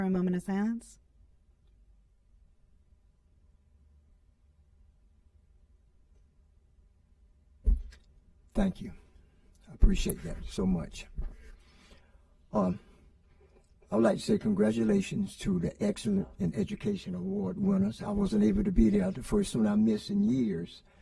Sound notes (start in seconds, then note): 8.0 moment of silence